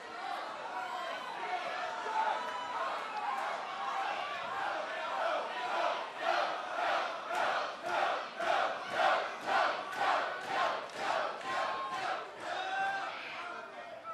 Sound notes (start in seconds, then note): 2.3 cheers and applause; 8.7 fans chanting